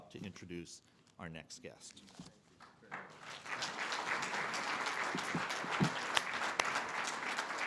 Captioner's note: audience applause